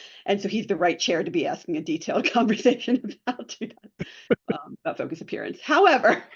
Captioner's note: laughs